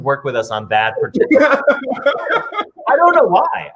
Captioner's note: laughs